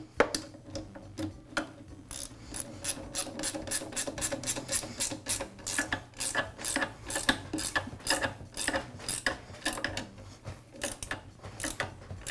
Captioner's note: tools clunking